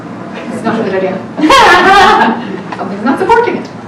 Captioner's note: laughing